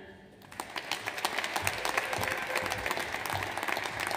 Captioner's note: audience applauds